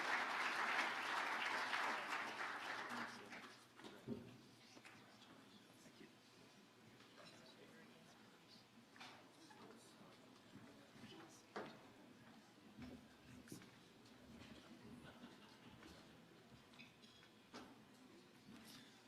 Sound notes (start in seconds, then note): 3.3 speaking off mic